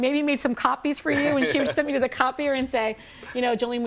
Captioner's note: laughing